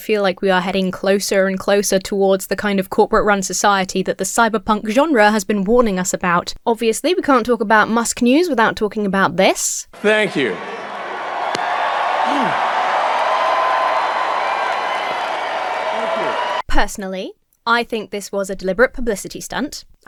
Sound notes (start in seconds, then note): 11.6 audience cheers; 11.6 hand smacks against body; 12.2 Musk grunts